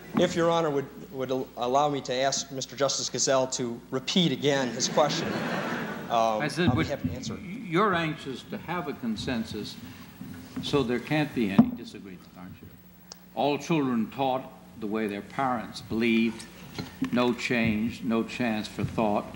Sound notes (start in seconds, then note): 4.6 laughter